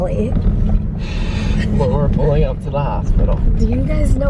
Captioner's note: laughs